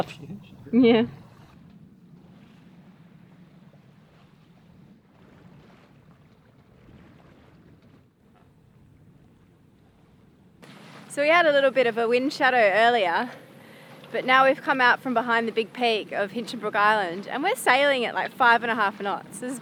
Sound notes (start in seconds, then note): 3.2 water sloshing gently